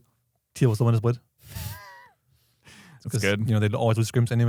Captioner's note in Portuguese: risos